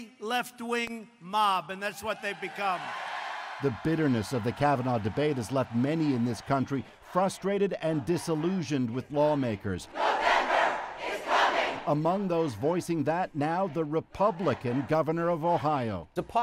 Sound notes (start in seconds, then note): 5.4 applause